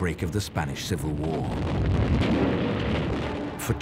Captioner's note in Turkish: çoklu patlamalar